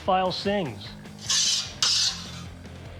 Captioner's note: scraping